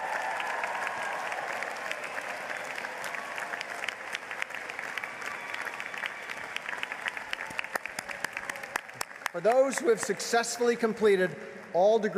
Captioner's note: applause